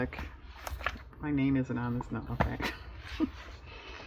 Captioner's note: laughs